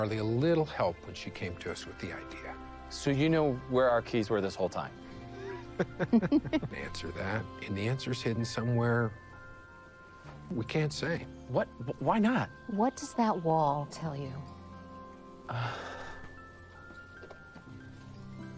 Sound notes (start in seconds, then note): 5.3 both laughing; 15.5 Austin sighing